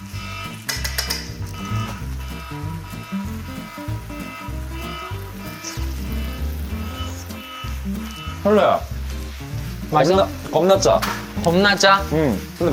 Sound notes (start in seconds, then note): 5.4 slurp